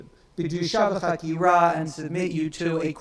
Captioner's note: speaks in foreign language